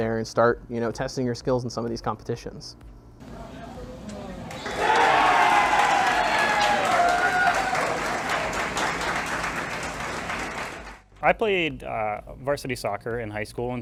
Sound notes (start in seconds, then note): 4.4 cheering; 4.4 clapping